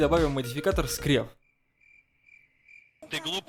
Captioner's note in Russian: звук сверчков